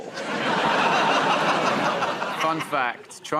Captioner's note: laughter